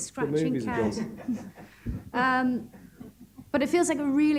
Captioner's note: chuckling